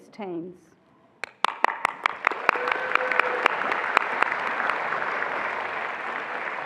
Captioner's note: attendees applauding and cheering